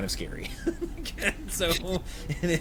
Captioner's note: laughs